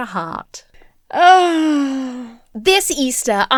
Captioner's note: sighs